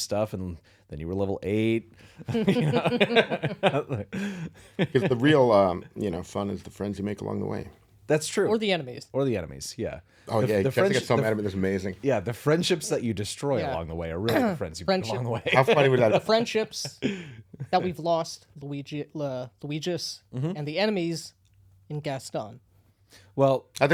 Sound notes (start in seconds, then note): 2.2 laughing